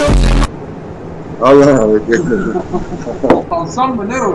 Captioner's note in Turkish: gülme sesleri